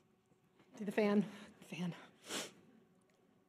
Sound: sniffles

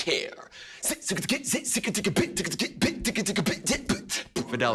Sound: beatboxing

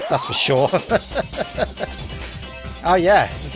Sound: chuckles

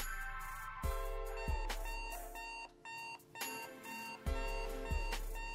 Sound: alarm beeping

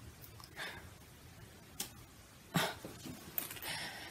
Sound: sigh

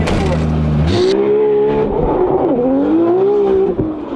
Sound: car revving

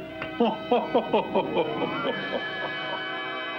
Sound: King Laughing

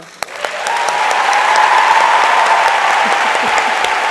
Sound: audience applauds

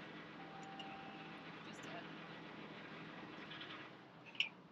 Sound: car indicator beeps

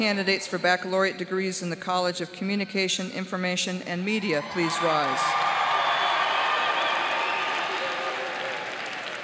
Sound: cheers and applause

